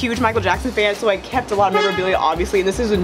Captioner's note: horn honking